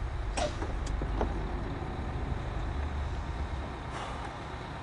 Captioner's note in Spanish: Ruido de motor